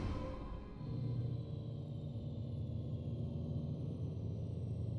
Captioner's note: low thrumming; intense music